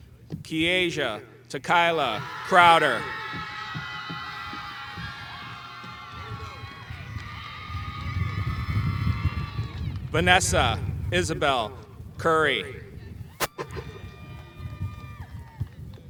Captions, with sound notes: Esia Takiyla Crowder. (audience cheering) Vanessa Isabel Curry.